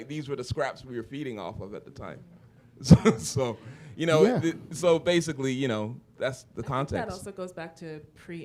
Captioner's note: chuckle